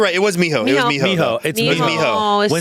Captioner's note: speaking foreign language